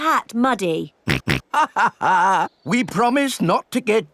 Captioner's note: chuckles; snorts